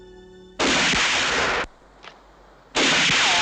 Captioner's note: gun firing